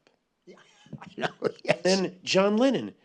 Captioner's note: laughing